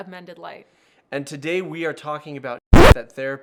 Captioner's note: record scratches